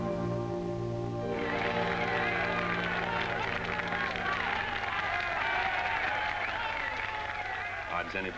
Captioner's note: crowd cheering & applauding